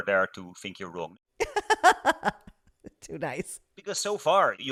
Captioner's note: laughing